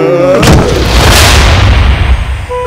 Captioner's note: Thud on the floor